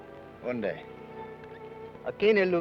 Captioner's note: Ben speaks foreign language